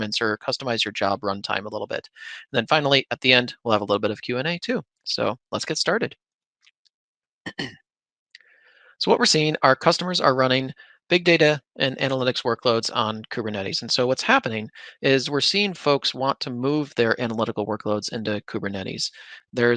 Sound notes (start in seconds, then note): 7.4 clears throat